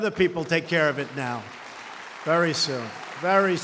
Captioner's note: applause